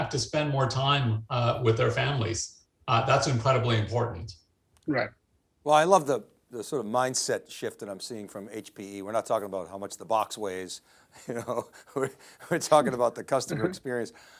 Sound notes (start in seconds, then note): 11.2 laughing